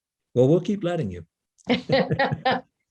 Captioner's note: laughing; laughs